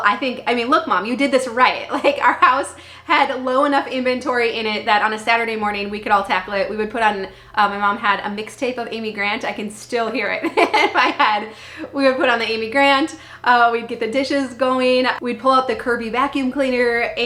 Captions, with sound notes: I think, I mean, look Mom, you did this right. Like our house had low enough inventory in it that on a Saturday morning, we could all tackle it. We would put on my mom had a mixtape of Amy Grant. I can still hear it (laughing) in my head. We would put on the Amy Grant. We'd get the dishes going. We'd pull out the Kirby vacuum cleaner.